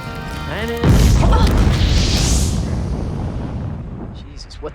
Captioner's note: explosion